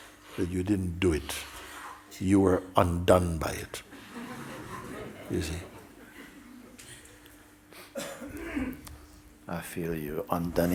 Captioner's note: laughter